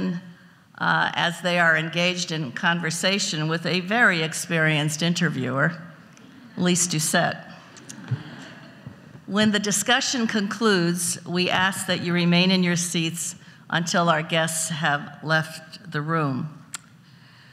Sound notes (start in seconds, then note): 7.8 audience laughs